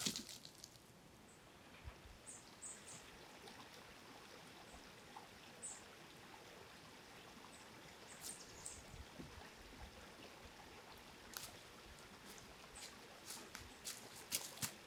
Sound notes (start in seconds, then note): 0.0 rustling leaves; 1.0 water flowing